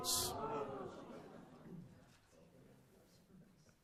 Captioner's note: audience moans